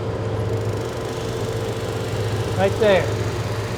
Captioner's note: drum sander sanding